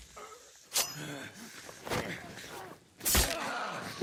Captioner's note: blade swooshing; blade thuds